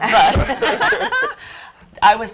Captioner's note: laugh